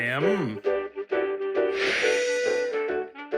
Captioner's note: magic wand swooshes